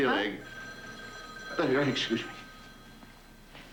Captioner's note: telephone rings